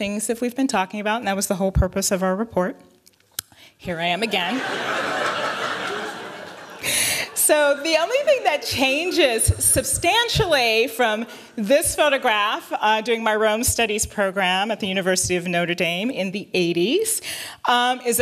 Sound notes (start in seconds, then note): 4.2 laughter